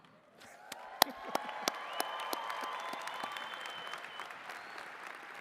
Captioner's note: all clapping and cheering